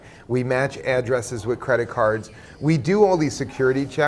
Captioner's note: laughs